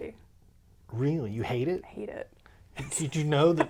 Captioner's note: laughs